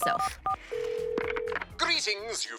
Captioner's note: dial tone